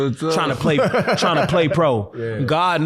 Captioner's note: laughing